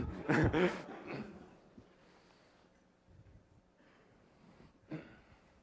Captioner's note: laughter